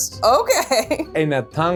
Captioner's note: laughs